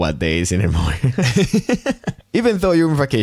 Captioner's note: laughter